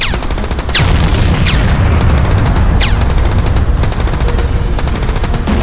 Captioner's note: explosion booming